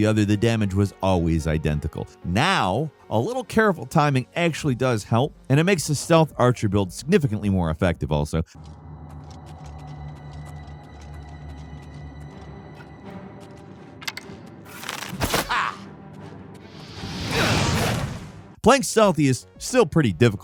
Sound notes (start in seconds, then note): 8.5 somber music; 9.1 footsteps shuffling; 15.4 bandit grunts